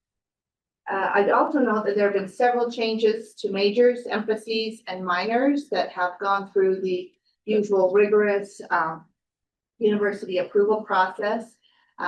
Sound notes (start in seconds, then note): none